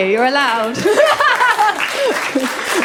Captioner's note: laughter; audience applause